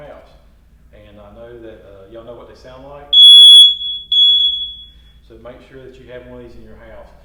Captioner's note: loud beep